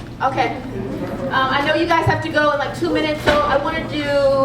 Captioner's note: laugh